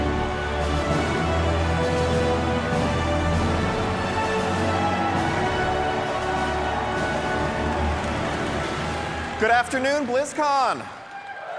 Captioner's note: cheering; epic Music